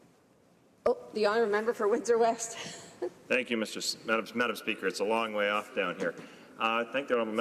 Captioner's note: speaking in French